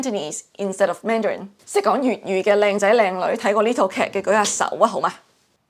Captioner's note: Cantonese